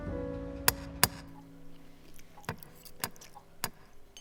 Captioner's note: knocker clicking